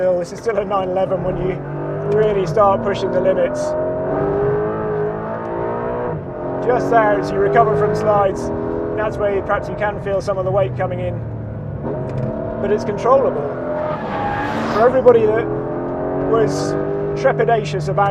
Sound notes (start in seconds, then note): 3.8 car roaring